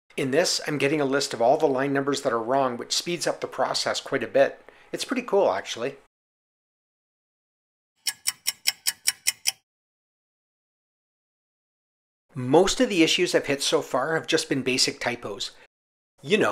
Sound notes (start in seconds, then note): 8.0 sound of a ticking clock